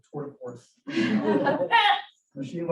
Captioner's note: audience laughs